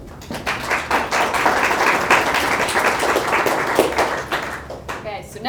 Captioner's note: audience applauds